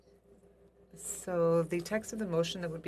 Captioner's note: speaking in French